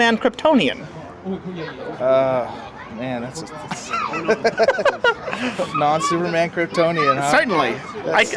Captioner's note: laughs